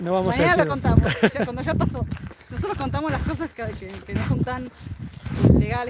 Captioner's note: laughs